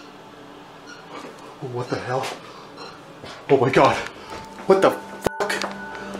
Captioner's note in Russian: Звук скрежета металла